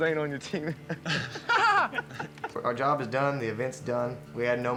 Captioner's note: laughing